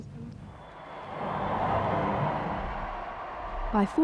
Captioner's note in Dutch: publiek juicht